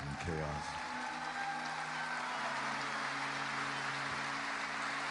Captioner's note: applause